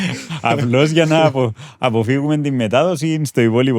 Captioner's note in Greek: γέλια